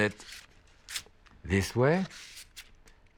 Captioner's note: none